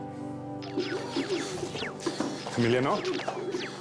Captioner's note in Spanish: Sonido de videojuegos